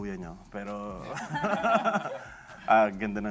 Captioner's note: laughter